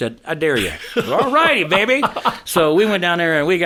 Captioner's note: laughing